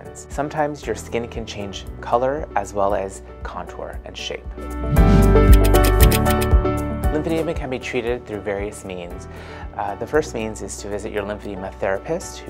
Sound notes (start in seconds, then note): 4.8 whooshing; 5.4 typewriter clicking